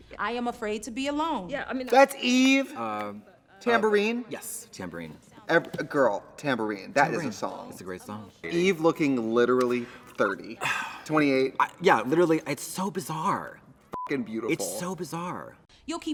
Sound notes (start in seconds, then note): 13.9 beep